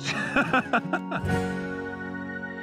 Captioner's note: laughing